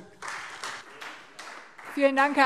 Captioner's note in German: Beifall Freie Demokraten